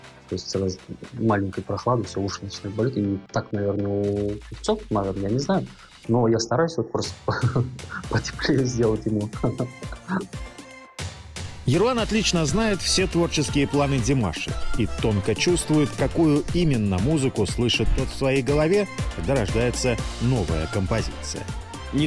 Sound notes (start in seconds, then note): 9.9 laughs